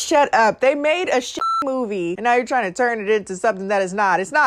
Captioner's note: beep